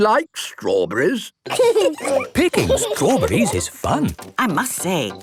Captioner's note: laughing